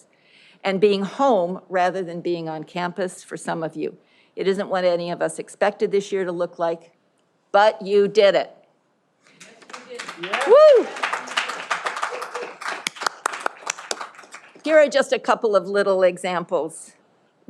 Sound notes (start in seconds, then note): 9.3 audience applauding